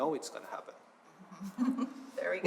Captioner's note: laughter